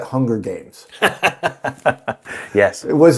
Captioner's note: chuckles